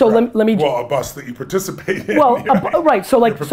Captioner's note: laughs